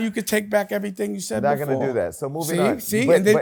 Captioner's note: none